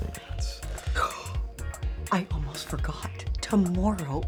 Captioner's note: gasps